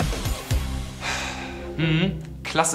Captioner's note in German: Beide seufzen